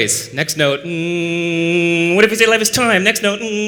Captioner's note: hum